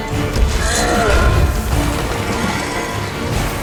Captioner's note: clang; metal scraping